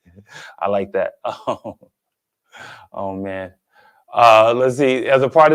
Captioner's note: chuckles